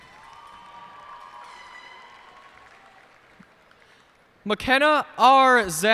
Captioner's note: cheers and applause